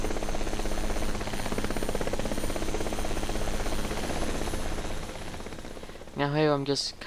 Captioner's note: helicopter Sounds